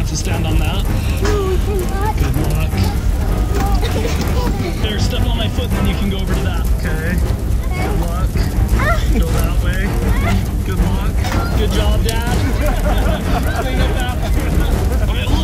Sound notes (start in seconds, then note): 3.3 children mumbling; 8.6 child exclaiming; 12.5 people laughing